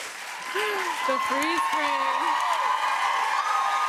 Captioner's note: cheers and applause